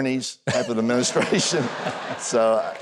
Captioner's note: audience laughs